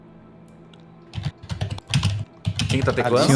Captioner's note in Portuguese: teclando